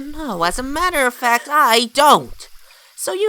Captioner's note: gasps